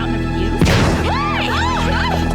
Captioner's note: boom